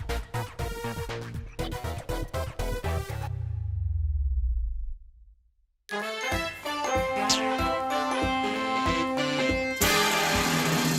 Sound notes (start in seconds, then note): none